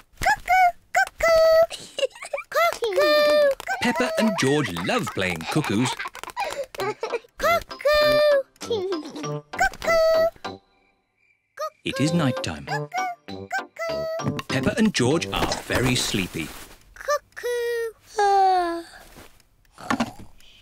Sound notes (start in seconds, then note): 1.6 giggles; 6.6 laughs; 18.6 yawns